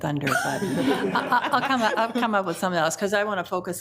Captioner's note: group laughs